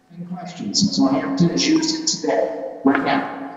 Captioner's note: recorded Feedback